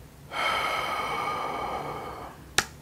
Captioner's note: deep sigh